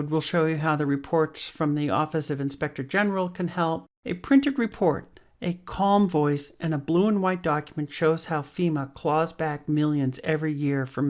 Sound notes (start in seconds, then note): none